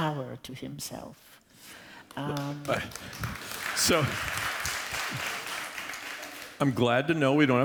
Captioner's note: applause